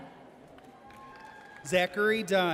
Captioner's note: audience cheers